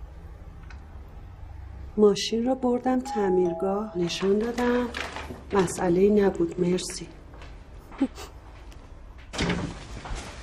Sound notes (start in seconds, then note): 3.0 doorbell ringing; 7.9 laughing; 9.3 door opening